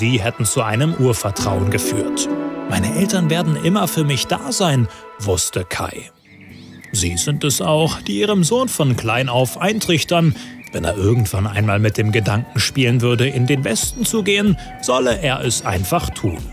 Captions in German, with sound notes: Sie hätten zu einem Urvertrauen geführt. ... wusste Kai. (Vogelzwitschern) Sie sind es auch, die ihrem Sohn von klein auf eintrichtern, wenn er irgendwann einmal mit dem Gedanken spielen würde, in den Westen zu gehen, solle er es einfach tun.